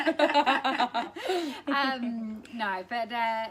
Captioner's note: laughter